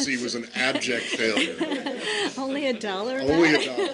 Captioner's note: laughter